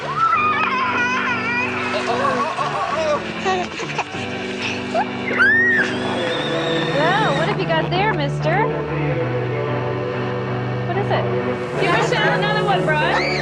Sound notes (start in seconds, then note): 3.5 laughing; 5.9 ride-on car whirring